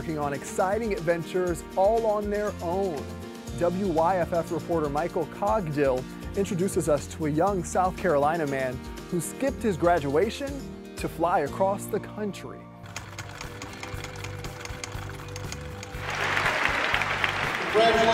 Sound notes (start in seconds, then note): 12.9 film reel clicking; 16.8 applause